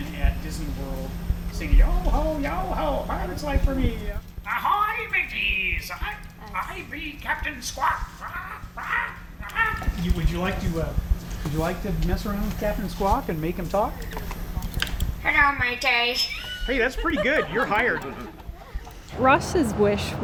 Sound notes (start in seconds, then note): 9.4 imitating parrot voice